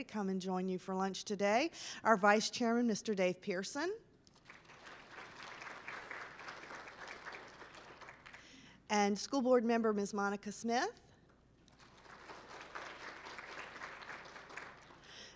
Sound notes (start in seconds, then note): 4.3 applause; 11.7 applause